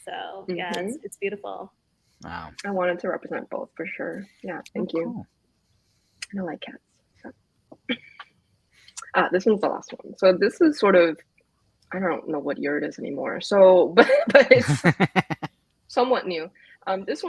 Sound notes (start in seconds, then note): 14.0 laughs